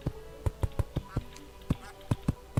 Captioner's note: the ducks rage on